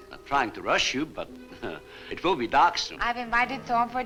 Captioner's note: chuckles